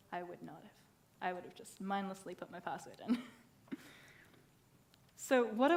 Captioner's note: laughs